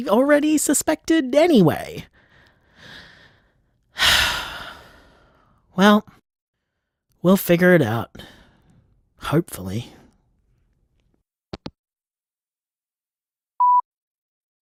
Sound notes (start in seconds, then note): 4.0 sigh; 11.4 hangup